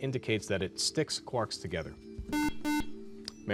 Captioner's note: beep